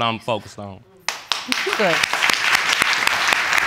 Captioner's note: audience applauding